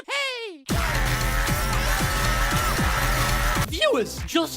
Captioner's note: screams